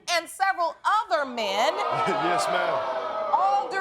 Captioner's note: chuckles